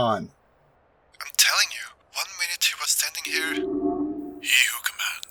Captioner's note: Lukas radio voice